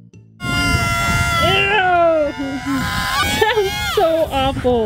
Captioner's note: loud squealing